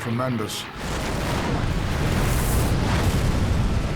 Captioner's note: explosions